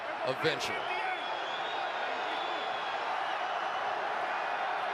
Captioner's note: cheers